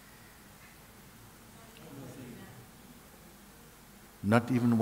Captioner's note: Φωνές στη σάνγκα